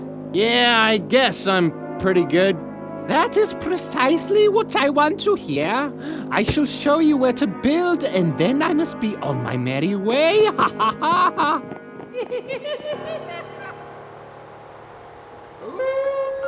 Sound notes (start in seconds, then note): 10.4 laughs; 11.9 laugh echoes